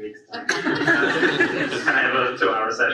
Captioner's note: audience laughs